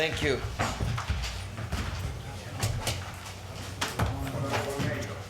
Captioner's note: people chatting